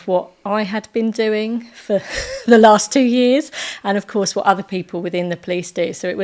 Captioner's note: laughing